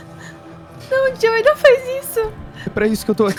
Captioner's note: crying